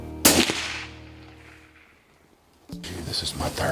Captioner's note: rifle fires